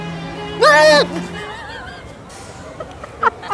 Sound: laughing

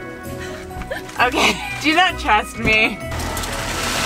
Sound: laughing

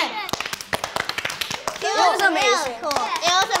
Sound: all clapping

